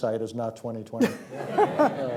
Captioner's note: laughter